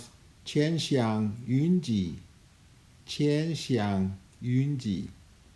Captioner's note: speaking in Chinese language